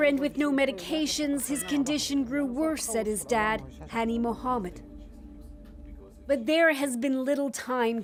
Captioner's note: speaking alternate language